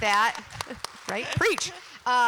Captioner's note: applause